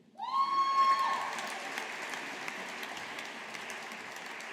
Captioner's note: audience applauding